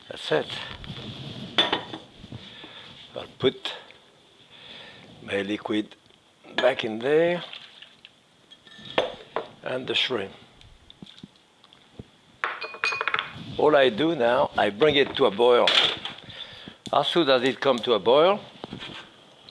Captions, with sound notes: That's it. I'll put my liquid back in there. (liquid sloshing) And the shrimp. (bowl clattering) All I do now, I bring it to a boil. As soon as it comes to a boil,